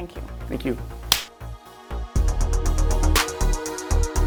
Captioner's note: clapping of hands; slow techno music